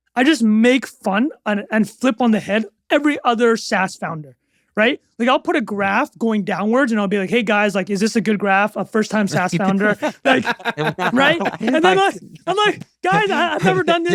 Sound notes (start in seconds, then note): 9.2 laughing